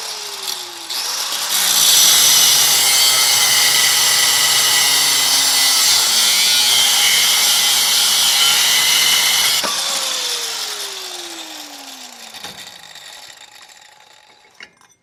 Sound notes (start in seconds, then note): 0.5 grind